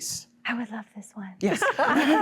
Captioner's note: laughter